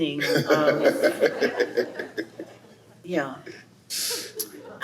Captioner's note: laughs